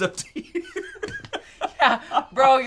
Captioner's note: laughs